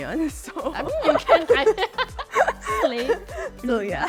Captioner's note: laughs